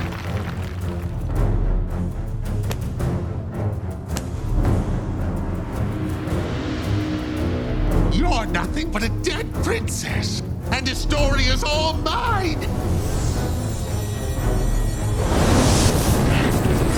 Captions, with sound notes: You're nothing but a dead princess, and Astoria is all mine. [shimmering]